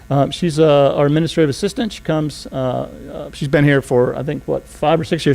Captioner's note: none